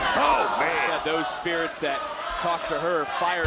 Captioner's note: crowd chants "let's go, alba"